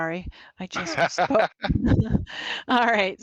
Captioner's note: laughs